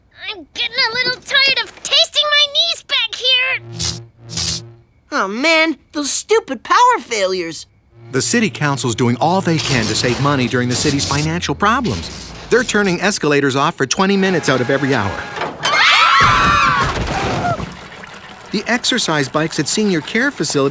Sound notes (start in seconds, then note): 3.1 electricity humming; 15.6 all screaming